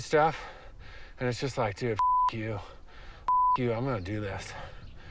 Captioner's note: beep